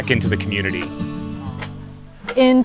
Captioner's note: muffled chatter